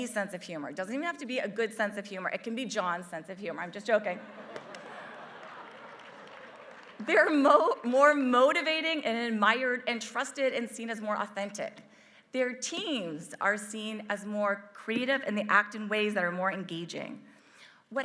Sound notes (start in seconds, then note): 4.5 applause